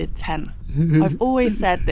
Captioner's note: tent sobbing